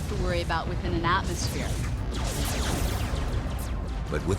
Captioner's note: laser weapon sounds